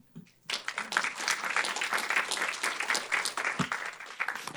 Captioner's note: applause